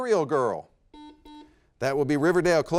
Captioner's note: buzzer beeps